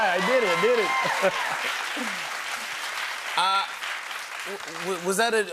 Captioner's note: cheers and applause